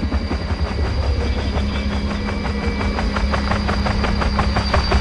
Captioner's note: sound of helicopter